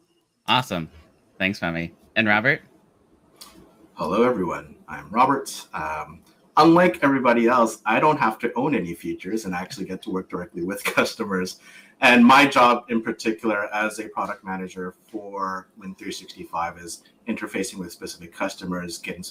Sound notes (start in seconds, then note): 9.4 laughs